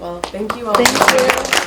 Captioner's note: applauding